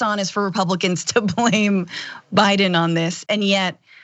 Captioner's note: laugh